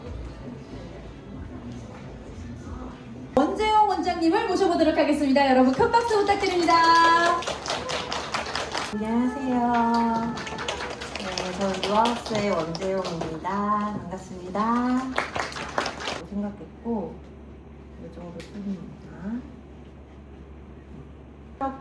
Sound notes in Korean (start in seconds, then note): 4.1 꺄악 소리 질러